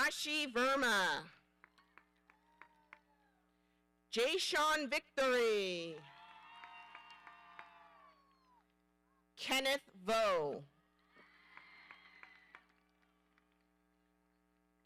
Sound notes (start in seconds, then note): 6.0 audience applauding; 11.2 audience cheering